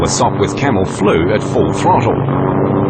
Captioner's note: plane sounds